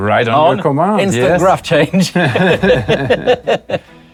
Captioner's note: both laughing